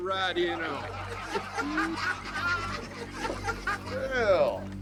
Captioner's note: gang laughing